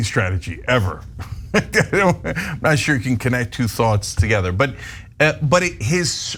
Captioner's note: laugh